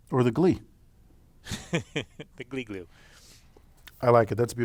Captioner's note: laugh